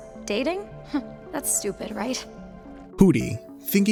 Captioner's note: scoffs